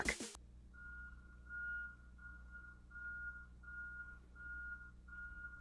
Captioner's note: garbage truck beeping in reverse